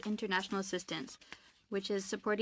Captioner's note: speaking French